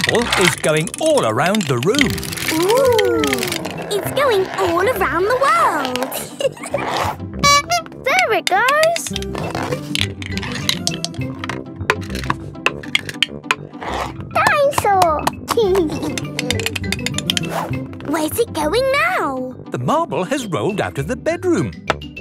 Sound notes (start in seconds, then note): 6.0 giggling; 7.4 honking; 15.8 giggling